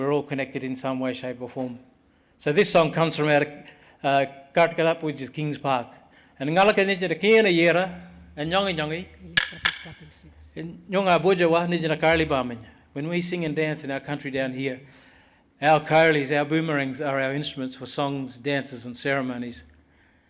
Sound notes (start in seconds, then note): 6.7 speaks Aboriginal langauge